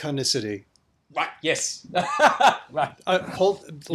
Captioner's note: laughs